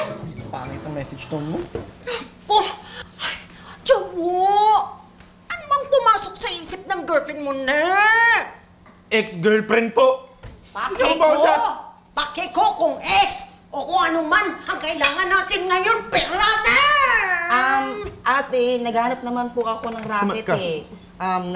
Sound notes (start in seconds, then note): 3.7 huffs